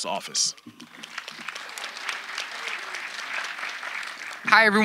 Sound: audience applauding

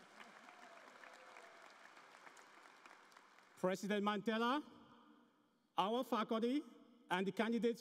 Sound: applause

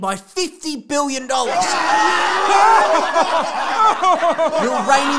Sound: group Laughter

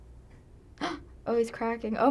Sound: gasping

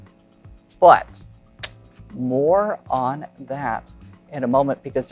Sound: clicks tongue

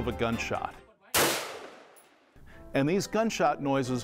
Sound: sound of a gun shot

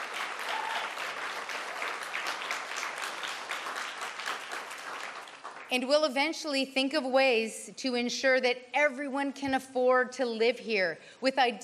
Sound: cheers and Applause

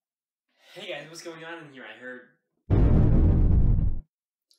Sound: explosion

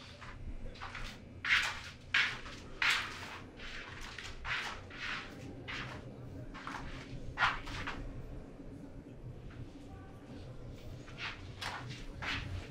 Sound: shuffling and walking on concrete floor

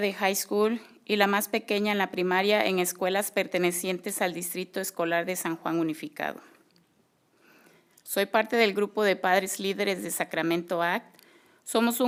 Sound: speaking spanish

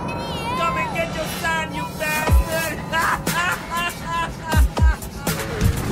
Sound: laughing

